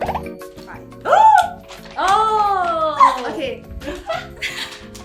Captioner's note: gasps